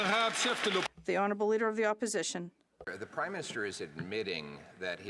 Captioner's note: some Applause